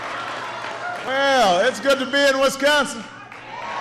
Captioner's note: applause